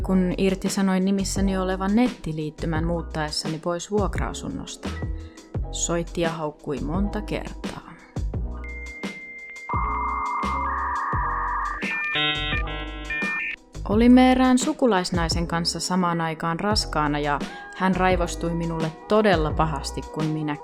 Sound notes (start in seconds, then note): 8.7 𝘮𝘰𝘥𝘦𝘮 𝘣𝘦𝘦𝘱𝘪𝘯𝘨